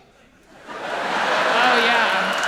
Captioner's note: audience laughing